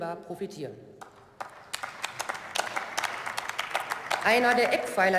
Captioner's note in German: Beifall